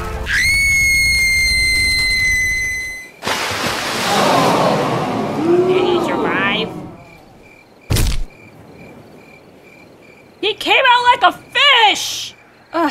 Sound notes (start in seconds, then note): 0.2 Blaze screams; 3.2 water splash; 4.0 crowd oohs in concern